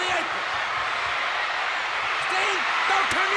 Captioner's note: audience cheers